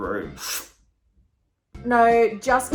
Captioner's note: inhaling